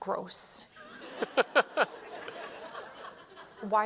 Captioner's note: laughter